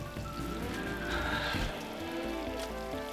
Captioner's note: sighs